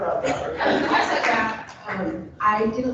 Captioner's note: people laughing